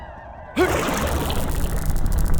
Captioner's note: crackling and bubbling